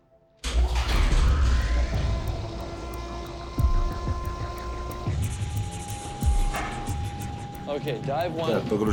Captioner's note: whirring